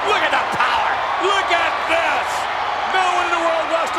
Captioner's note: audience cheers